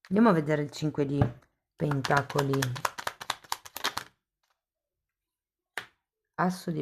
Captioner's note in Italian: Applauso